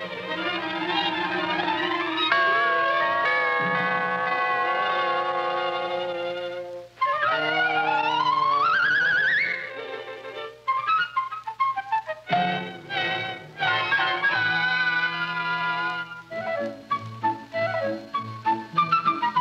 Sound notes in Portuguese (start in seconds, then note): 5.7 campainha tocando